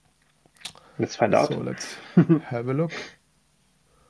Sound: laughs

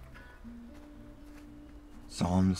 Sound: snow crunching

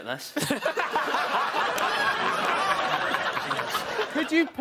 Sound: all laughing

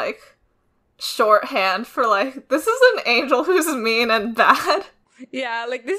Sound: laughs

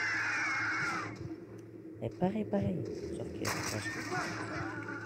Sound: cold noises

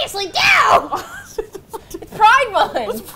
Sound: laughs

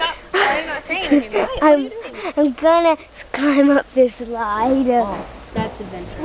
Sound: laughing

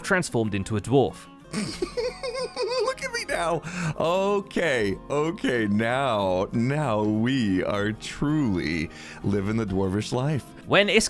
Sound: giggling

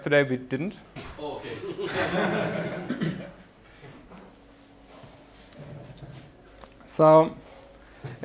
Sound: laughing

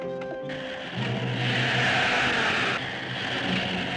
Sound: Jeep Approaching

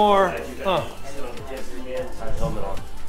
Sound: chatters

